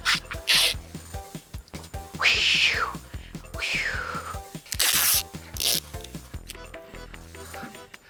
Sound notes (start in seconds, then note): 3.6 imitates whooshing